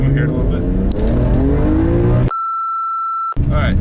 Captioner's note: car revs